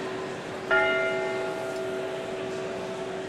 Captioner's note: bell tolls